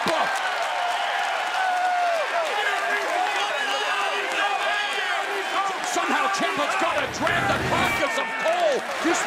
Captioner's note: crowd cheering